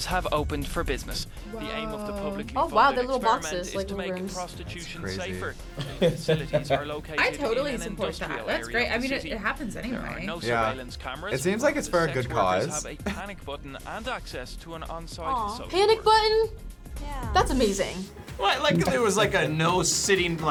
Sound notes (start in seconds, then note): 5.7 laughs